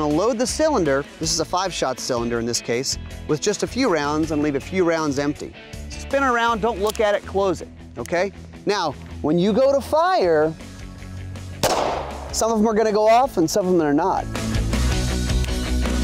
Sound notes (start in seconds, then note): 11.6 gunshot